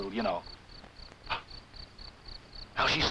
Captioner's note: crickets chirping